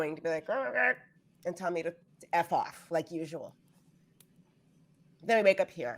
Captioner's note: imitates bird